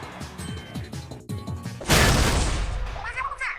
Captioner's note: emergency exit doors smash open!